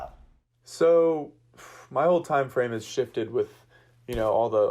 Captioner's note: sighs